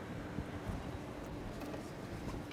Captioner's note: none